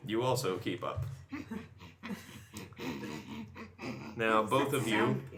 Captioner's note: growly humming